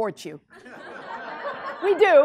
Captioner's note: class laughs